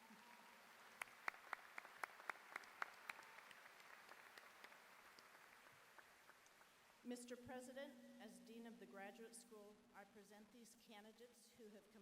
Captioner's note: applause